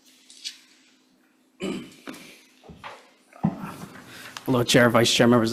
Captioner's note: man clears throat